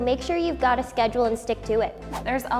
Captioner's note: swooshing